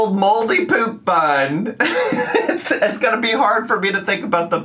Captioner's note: laughs